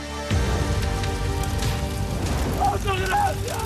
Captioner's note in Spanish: Sonido de las llamas al extenderse